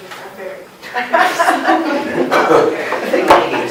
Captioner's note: laughter